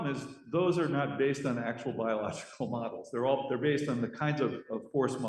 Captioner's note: laughs